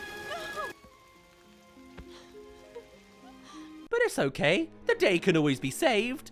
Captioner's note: cries